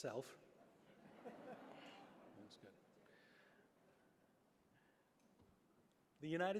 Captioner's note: laughter